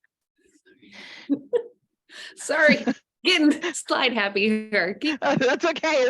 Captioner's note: laughing